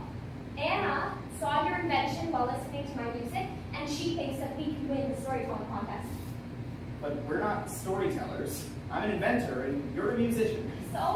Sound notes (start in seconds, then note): none